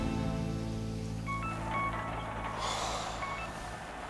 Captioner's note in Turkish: telefon çalar